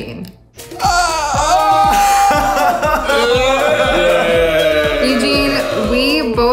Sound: yelling

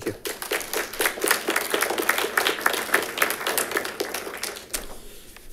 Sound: congregation claps

